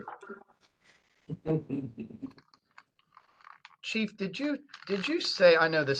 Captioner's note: laugh